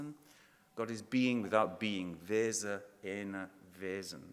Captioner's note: speaking in foreign language